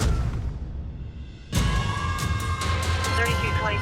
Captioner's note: siren wailing